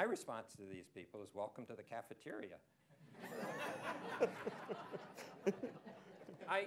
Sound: laughter

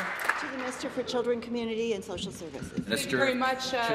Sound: applause

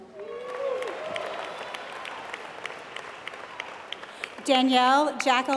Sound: applause

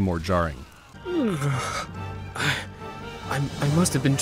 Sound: Arthur yawning

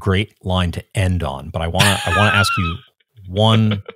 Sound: laughing

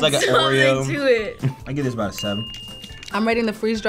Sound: bell dinging

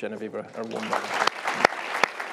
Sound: applause

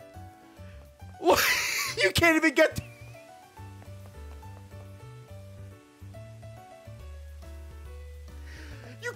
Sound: laughs

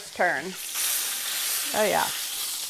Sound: sizzling

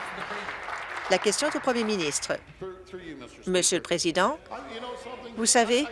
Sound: applause

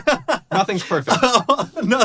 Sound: laughs

